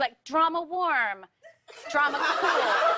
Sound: laughter

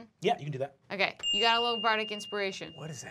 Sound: chime

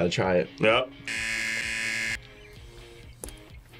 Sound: buzzer rings

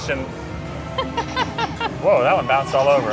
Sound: laughs

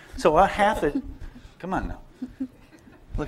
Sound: laughter

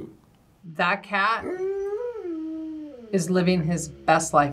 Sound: dog howls

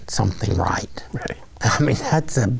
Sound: chuckling

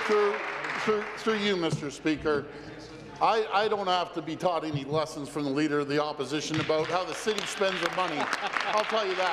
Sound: applause

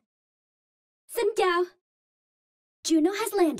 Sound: Vietnamese

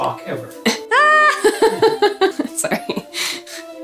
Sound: laughing

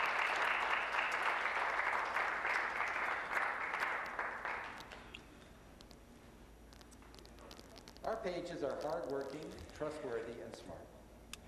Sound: applause

